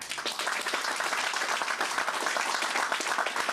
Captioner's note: applause